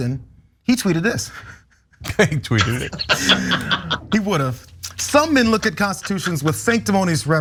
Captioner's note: laugh